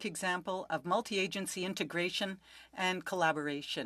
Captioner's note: speaking French